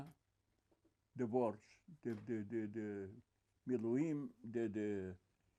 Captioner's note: hebrew